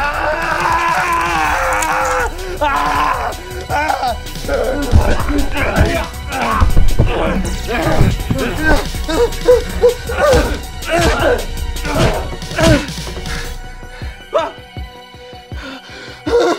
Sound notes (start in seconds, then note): 0.0 Dave screams in pain; 0.4 bone crunching; 0.5 slicing flesh; 10.4 boots squelching